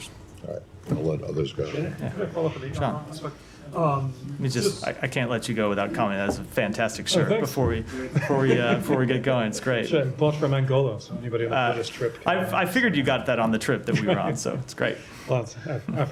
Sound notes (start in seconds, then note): 8.0 laughter